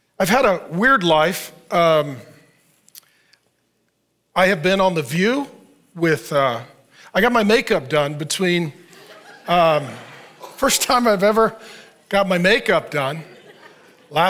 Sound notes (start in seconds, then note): 8.8 audience laughs